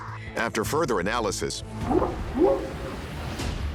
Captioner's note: whooping sound